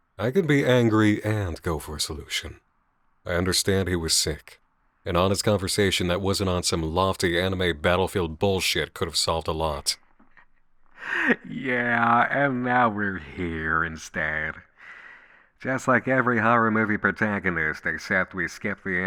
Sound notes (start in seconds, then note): 11.0 laughing